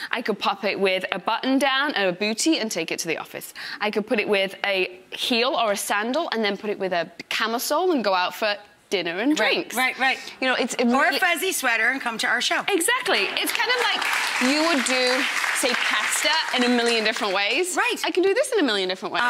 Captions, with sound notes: I could pop it with a button down, a booty, and take it to the office, I could put it with a heel, or a sandal, and then put it with a camisole and go out for dinner and drinks. Right, right. Ya know, it's- A warm-fuzzy sweater and come to our show. Exactly! It's kinda like- [audience clapping] You would do, say pasta, in a million different ways. Right! I can do this in a million different ways.